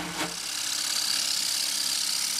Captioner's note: grinding noises